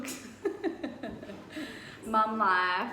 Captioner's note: laughs